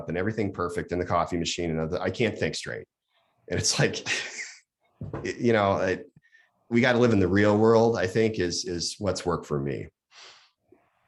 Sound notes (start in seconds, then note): 4.6 laughs